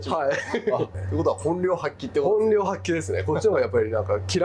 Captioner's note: laughs